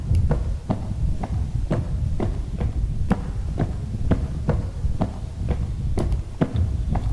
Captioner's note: footsteps